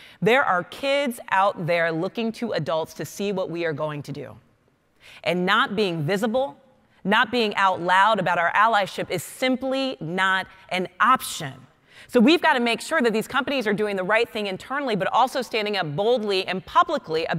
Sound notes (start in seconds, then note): none